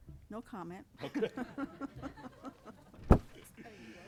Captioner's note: all chuckling